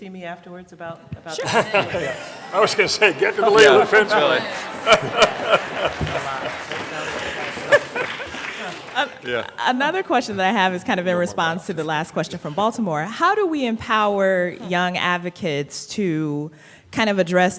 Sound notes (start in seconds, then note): 7.0 laughter; 9.9 applause